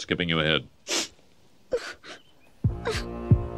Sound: heartbeat thudding; sniffling; heartbeat thudding

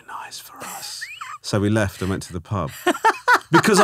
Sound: laughing

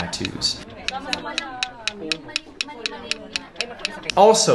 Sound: tapping sound

